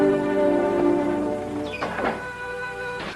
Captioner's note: door squeaks and closes